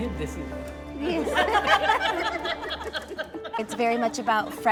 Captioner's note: laughter